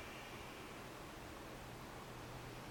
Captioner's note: breathing sounds